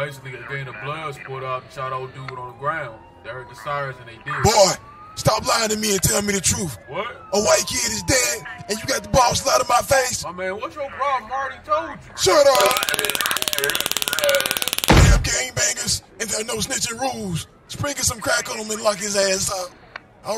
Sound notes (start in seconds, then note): 12.5 taser clicks